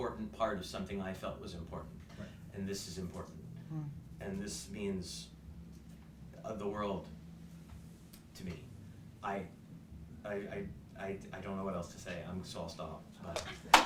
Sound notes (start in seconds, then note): 7.9 stammering; 13.7 applause, cheering